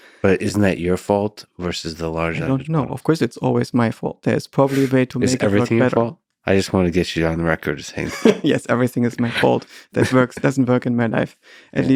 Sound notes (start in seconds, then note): 5.2 Lex chuckles; 8.0 chuckles